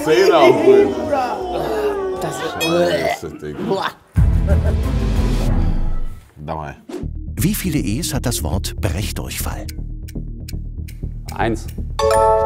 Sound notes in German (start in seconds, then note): 3.0 Würgen; 4.1 Spannungsvolle Musik